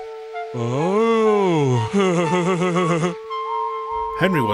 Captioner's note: chuckles delightfully